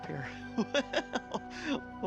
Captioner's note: laughs